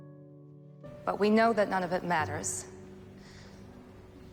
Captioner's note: voiceover